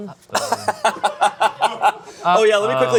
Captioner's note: laughing